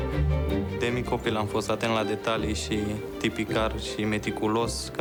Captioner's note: speaking foreign language